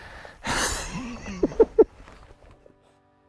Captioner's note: laughs